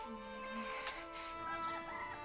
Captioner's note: rooster Crows